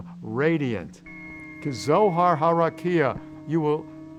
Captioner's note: speaks in Hebrew